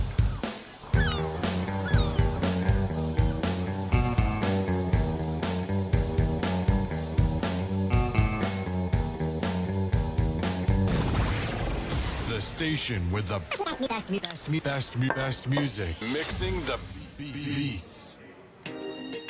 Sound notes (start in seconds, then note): 0.2 rock music continues; 13.4 record rewinding; 18.1 echoing